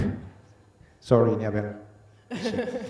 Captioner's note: both laughing